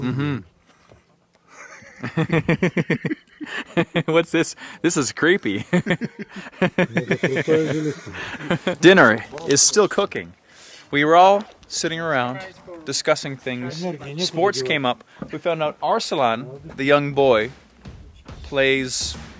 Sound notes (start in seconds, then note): 0.0 man speaking in background; 0.3 speaking in foreign language; 1.5 laughing; 5.4 laughs